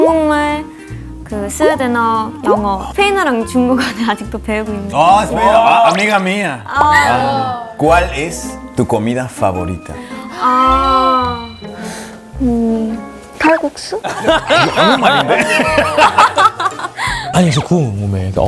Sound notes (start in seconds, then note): 14.3 mixing 5 languages